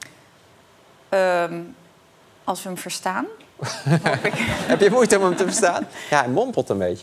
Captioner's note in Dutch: gelach